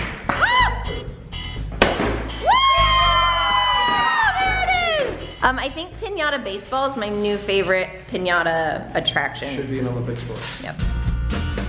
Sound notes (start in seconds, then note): 2.4 family cheering